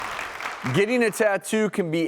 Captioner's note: audience applauds